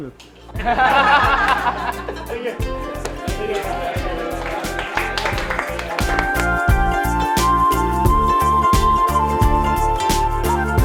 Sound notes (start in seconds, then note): 0.5 laughter; 4.7 applause